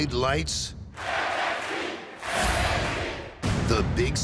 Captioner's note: fans chanting